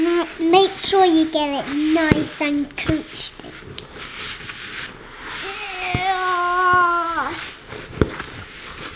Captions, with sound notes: Make sure you get it nice and crunched. (groans)